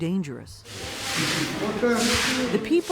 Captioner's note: people speaking foreign language